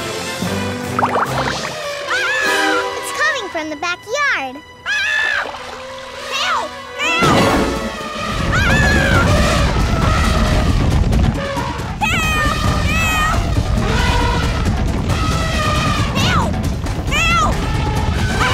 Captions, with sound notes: [screaming] It's coming from the backyard! [screaming] Help, help, ahhh! Help, help! [elephant horns] Help, help!